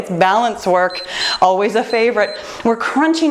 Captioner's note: timer beeps